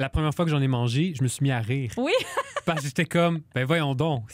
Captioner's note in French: rires